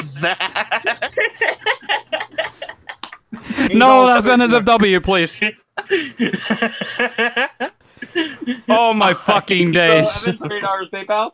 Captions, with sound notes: [LAUGHTER] – No, that's NSFW. Please. – [LAUGHS]